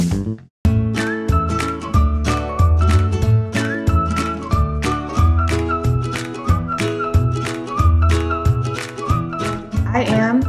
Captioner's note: playful whistling